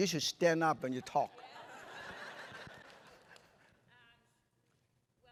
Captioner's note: laughter